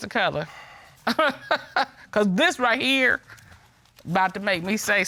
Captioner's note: chuckles